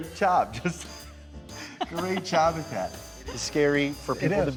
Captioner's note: laughs